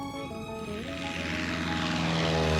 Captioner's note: aircraft engine buzzing